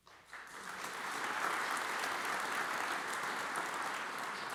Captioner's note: audience applauds